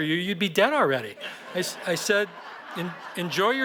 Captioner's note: laughter